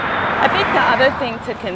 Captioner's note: car engine revving